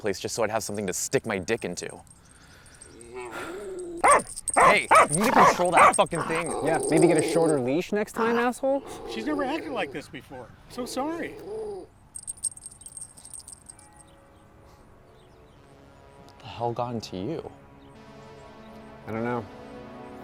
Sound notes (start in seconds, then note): 3.0 dog growls and barks; 12.5 brooding music